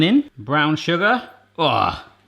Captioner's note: groaning